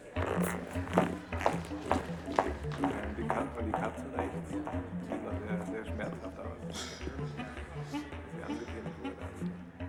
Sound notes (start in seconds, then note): 0.1 whimsical music; 3.2 people chattering